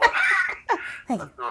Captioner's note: laughing